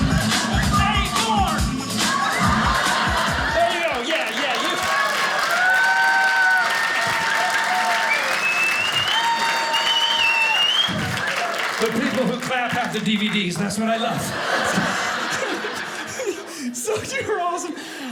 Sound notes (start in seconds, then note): 0.0 audience laughing; 1.7 audience laughing; 4.6 audience applauding; 14.2 audience laughing